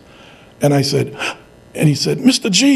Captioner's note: gasps